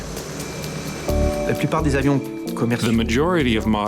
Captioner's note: speaking in foreign language